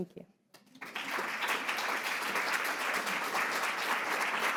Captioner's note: audience applauds